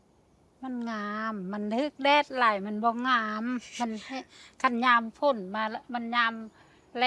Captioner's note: speaking in foreign language